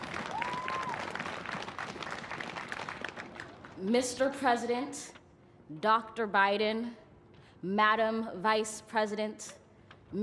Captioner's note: cheers and applause